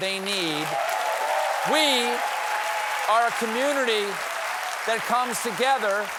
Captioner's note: applause